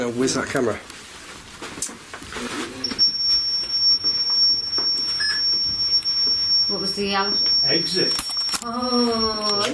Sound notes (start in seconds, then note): 2.8 loud beeping